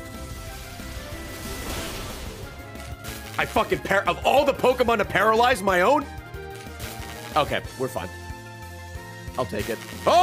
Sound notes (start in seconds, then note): none